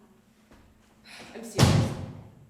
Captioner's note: crash